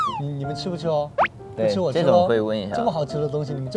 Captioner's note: mischievous tone